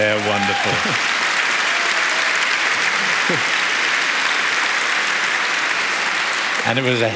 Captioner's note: applause